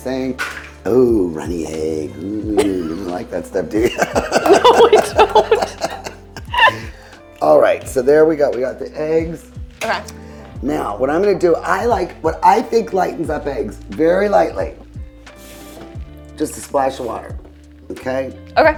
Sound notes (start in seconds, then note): 3.7 laughing; 3.8 laughs